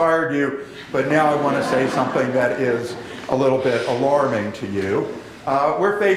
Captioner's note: laughter